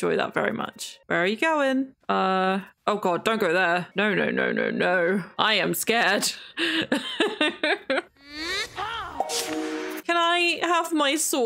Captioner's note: laughs